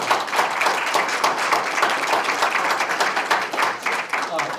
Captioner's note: applause